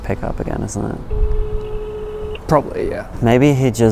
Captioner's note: phone rings